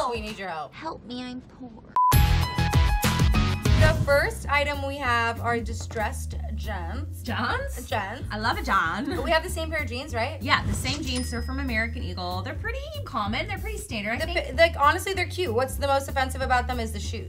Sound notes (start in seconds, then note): 1.9 screen beeps; 2.6 upbeat music